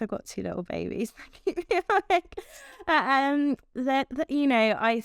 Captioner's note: laughs